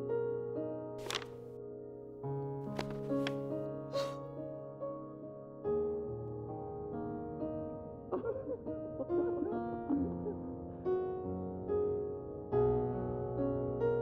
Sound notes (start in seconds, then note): 7.9 Ash and Luca laughing, muffled